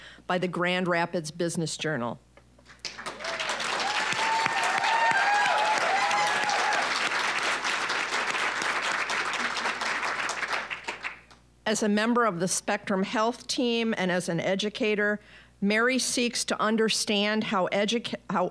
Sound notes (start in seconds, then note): 2.8 applause, cheering; 7.8 applause